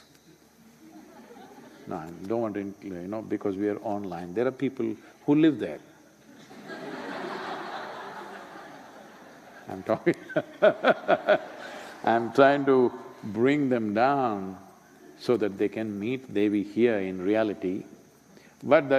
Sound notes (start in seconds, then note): 0.8 laughter; 6.2 laughter; 10.3 laughs